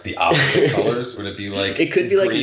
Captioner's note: laughing